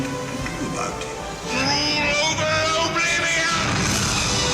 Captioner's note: fire whooshing; upbeat music